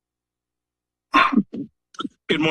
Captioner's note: coughs